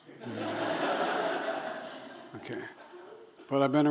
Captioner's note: laughter